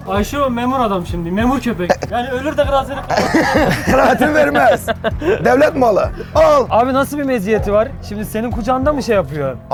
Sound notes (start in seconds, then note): 1.6 laughs